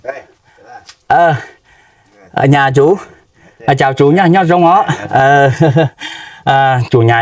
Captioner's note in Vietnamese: tiếng cười